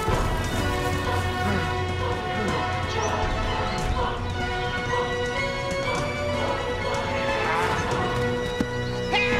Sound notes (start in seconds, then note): 2.0 heavy breathing